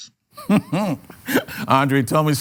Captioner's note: laughs